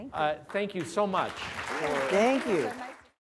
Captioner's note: applause